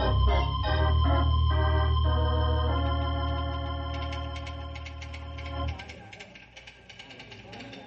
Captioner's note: ticking